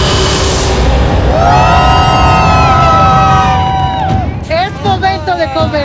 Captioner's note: gay cheers